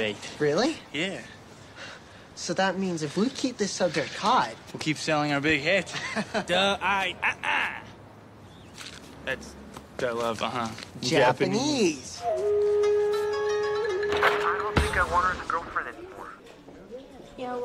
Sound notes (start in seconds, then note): 6.5 speaks Japanese; 12.2 oriental music